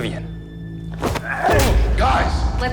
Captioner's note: punch thuds; Shepherd grunts